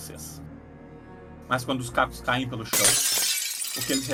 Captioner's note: glass shatters